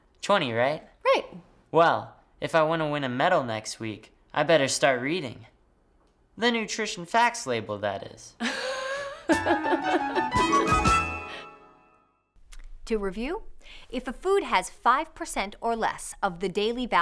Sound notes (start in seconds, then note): 8.5 laughing